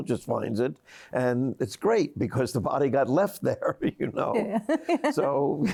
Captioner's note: laughs